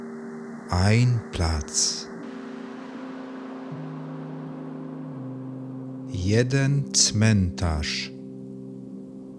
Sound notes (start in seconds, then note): 2.3 german